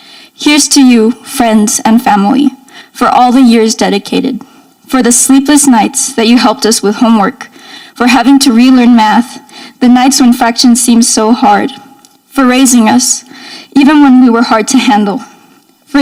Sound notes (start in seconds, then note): none